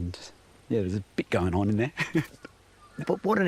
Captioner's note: laughs